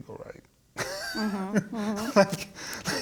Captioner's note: laughing